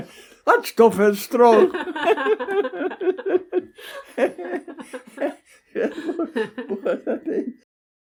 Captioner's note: both laugh